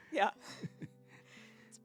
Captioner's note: laughs